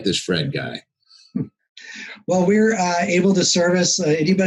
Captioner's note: chuckles